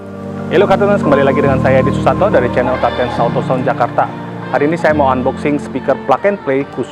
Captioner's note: foreign language